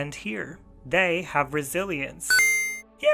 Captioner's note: chime